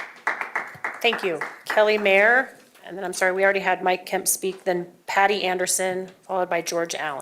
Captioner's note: applause